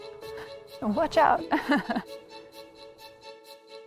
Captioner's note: giggles